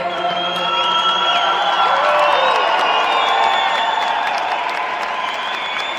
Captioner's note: cheers and applause